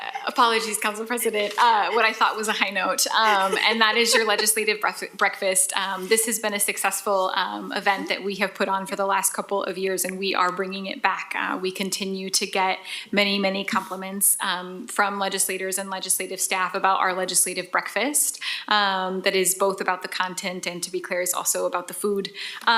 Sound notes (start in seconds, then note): 4.3 laughs